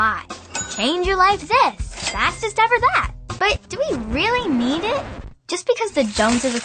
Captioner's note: record scratch